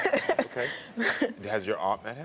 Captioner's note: laughs